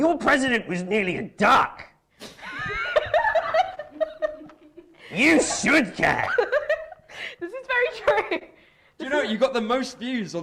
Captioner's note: laughing